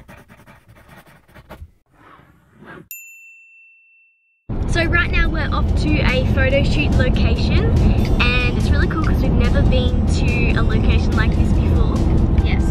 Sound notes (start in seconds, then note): 0.0 scribbling; 2.9 ping